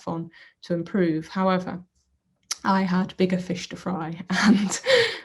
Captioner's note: laughs